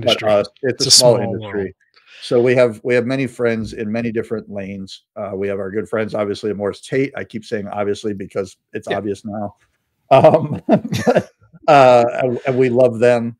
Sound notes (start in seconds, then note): 10.1 laughing